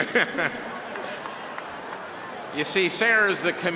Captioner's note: cheering and applause